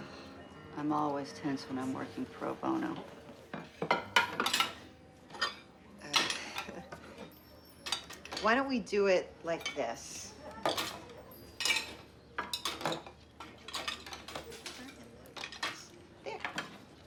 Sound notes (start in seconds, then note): 6.3 chuckles nervously